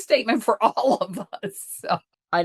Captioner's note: chuckles